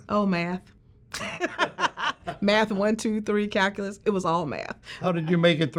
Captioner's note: laughs